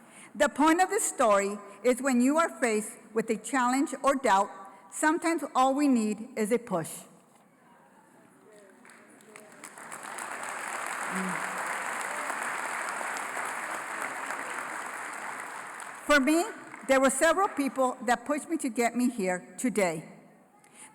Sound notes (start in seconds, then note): 8.4 applause